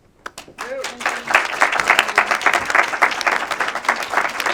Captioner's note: audience applauding